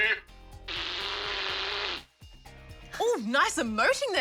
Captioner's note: blows raspberry